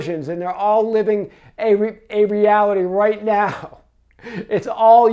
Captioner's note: laughs